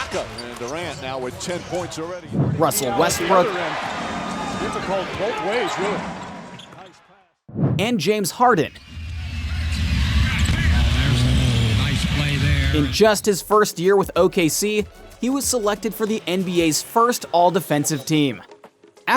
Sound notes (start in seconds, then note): 4.9 announcer speaking